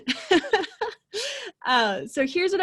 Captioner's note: laughing